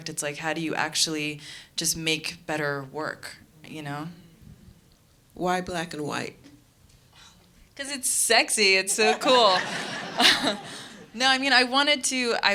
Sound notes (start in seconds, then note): 9.0 laughing